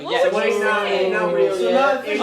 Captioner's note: indistinct chatter